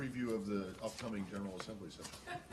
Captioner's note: laughter